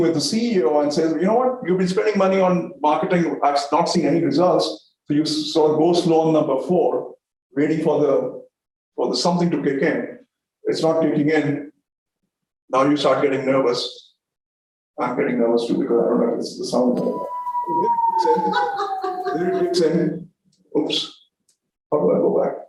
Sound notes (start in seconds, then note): 16.9 sound effect plays in background; 18.3 audience laughter